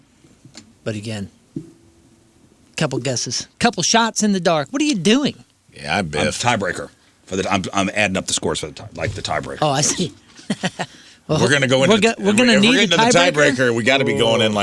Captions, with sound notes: But again, couple guesses. Couple shots in the dark. What are you doing? Yeah, I bet. I'm a tiebreaker. I'm adding up the scores for the time. Like the tiebreaker. Oh, I see. (laughs) We're gonna go into the tiebreaker. We gotta be going in